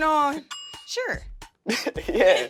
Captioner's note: bell rings; laughing